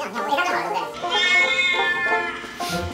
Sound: meow

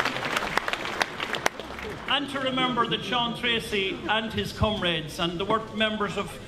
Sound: laughter

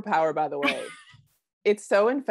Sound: laughing

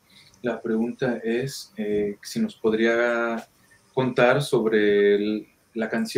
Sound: speaking in foreign language

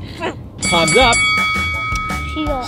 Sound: bell rings

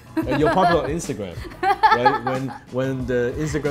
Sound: laughs

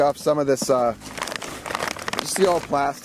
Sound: crinkling sound

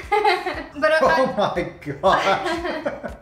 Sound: laughs

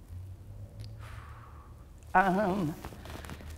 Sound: exhales

